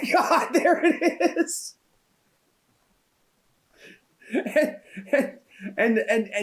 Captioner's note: laughs